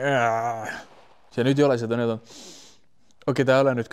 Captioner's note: sniff